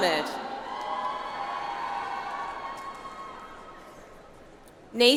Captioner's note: audience applauds